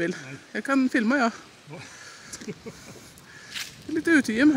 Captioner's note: laughs